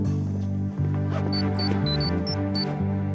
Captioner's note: beeping